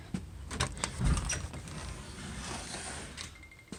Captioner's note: door opens